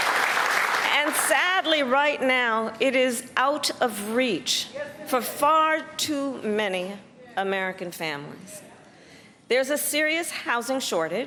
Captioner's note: applause